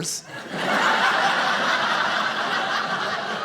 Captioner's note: audience laughing